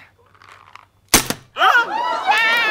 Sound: bam

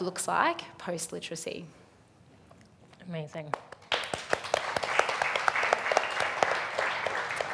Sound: applauding

